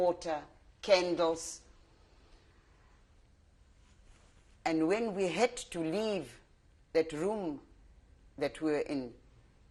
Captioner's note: pauses for 3 seconds